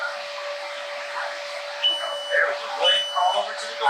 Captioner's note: alarm beeping